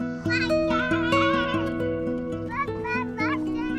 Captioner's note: yelling